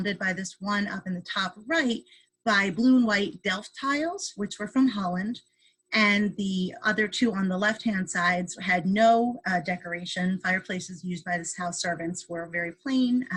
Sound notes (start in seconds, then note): none